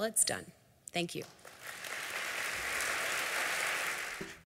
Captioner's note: applause